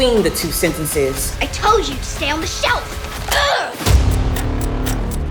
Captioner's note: grunts; clock ticking; drum thuds